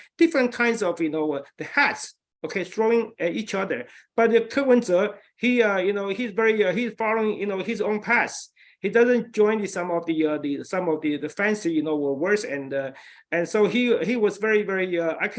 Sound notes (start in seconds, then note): none